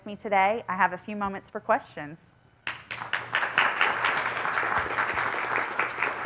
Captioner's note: applause